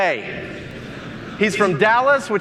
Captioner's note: audience mumbling